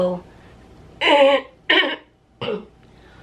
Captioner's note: clears throat